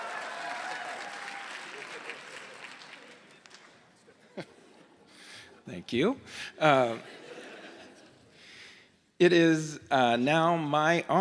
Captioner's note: applause